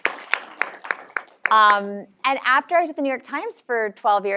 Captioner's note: applause